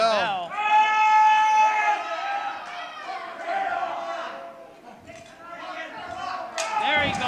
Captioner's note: screams